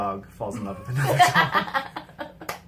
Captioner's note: laughs